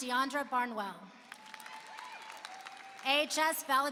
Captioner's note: applause